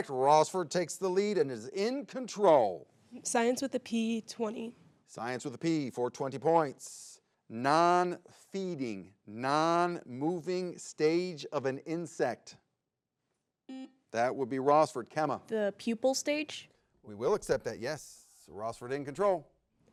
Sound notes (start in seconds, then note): 13.8 button blips